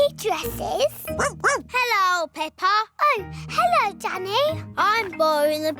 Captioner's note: barks